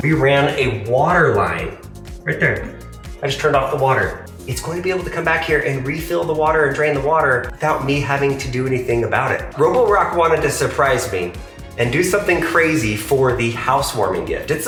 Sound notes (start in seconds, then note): none